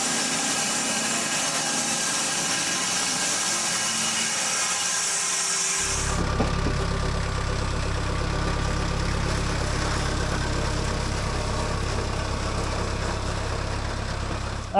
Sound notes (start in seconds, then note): 0.0 saw whirring continues; 6.9 engine purring